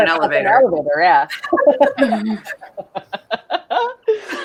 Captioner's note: all laughing